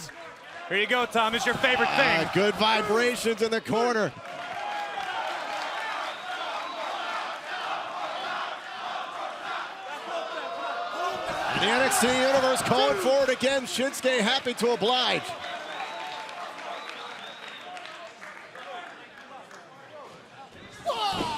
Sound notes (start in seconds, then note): 6.1 fans chanting